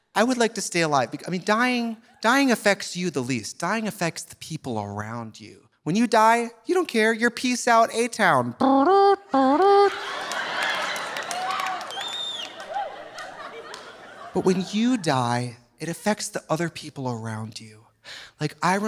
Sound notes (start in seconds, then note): 8.4 imitates trumpet tooting; 9.3 audience laughing; 9.5 audience applauding